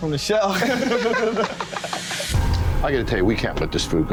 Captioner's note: both laughing